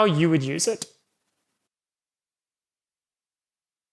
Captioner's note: silence